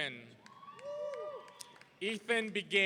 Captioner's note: audience cheering